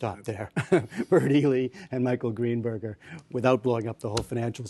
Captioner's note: laughter